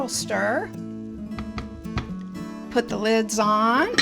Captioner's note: spatula pattering